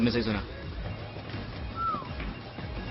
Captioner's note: man whistles